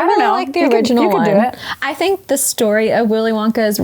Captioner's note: none